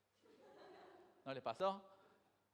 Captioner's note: crowd laughs